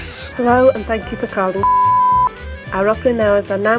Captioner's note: beep